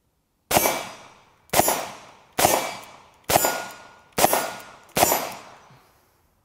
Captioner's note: gun shots